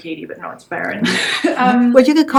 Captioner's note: laughs